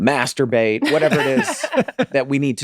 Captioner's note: Meg and Charlie laughing